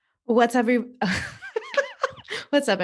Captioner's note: laughs